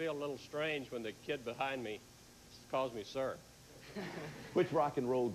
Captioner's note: audience laughing